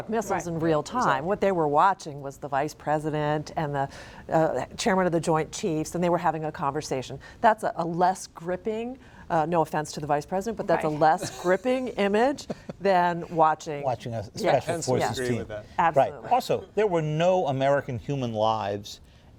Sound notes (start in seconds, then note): 11.0 laughter